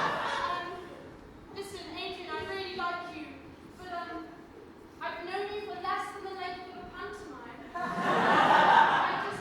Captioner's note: audience: "bit quick!", followed by laughter; audience laughs